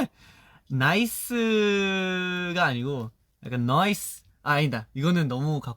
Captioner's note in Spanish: acento coreano